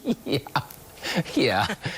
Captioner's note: laughter